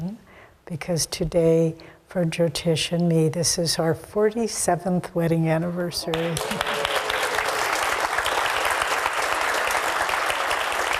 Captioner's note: clapping